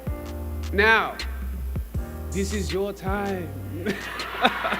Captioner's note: laughs